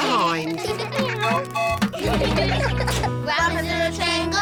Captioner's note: all giggling; tooting